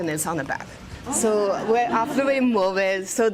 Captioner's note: exclamations, laughter